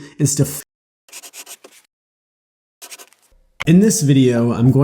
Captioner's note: pen scratching